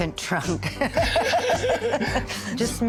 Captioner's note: laughing